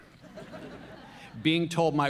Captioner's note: audience laughs